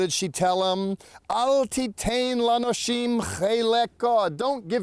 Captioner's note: speaking in Hebrew